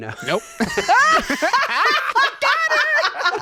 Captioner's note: laughing